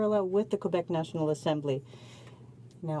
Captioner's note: speaking french